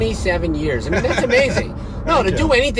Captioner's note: laughing